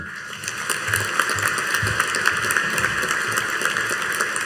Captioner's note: audience applauding